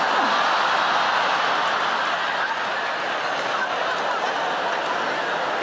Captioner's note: audience laughs